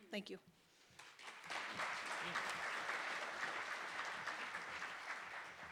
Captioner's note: clapping